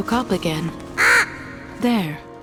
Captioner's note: crow caws